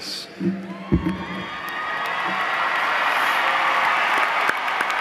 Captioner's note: cheers and applause